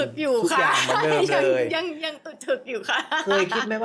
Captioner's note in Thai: เสียงหัวเราะ